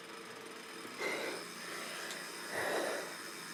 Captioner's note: breathes heavily